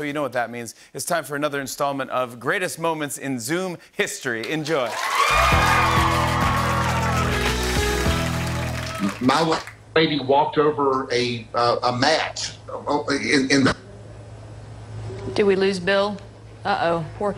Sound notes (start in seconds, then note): 4.8 cheering and applause